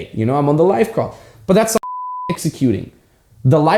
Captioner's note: beep